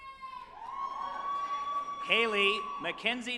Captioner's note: group applauding and cheering